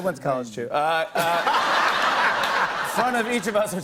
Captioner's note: laughter